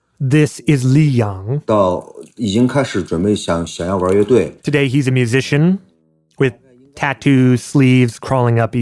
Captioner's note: speaking Mandarin Chinese